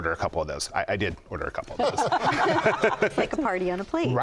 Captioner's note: laughter